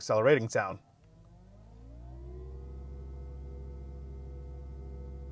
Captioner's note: engine revving